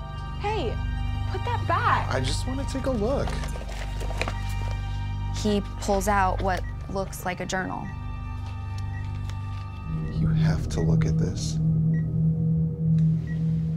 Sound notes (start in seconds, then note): 7.8 beeping; 8.9 ominous music; 11.5 ominous music